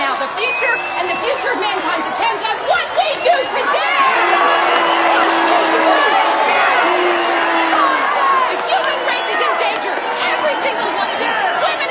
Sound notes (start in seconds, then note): 4.3 crowd booing